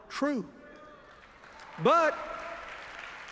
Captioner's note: applause